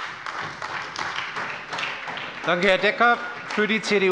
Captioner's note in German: Beifall bei der SPD